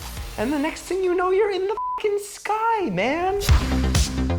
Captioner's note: beep; dynamic music